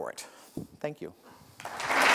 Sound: applause

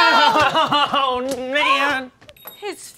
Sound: crying

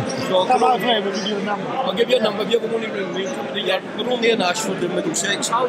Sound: crowd chattering; various conversations

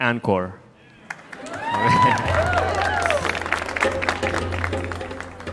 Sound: audience cheering

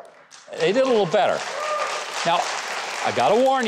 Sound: audience applauding

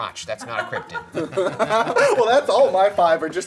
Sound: laughing

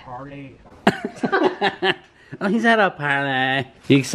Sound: chuckles

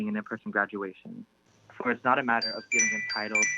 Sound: chime

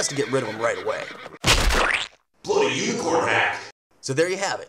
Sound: splat!

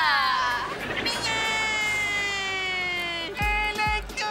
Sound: crying

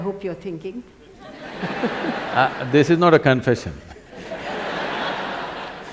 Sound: laughter; laughter

